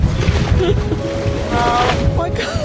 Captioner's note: laughter